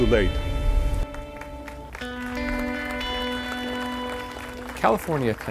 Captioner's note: applause